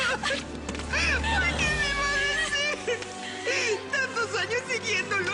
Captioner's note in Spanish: Risas